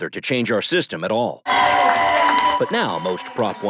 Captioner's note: cheers and applause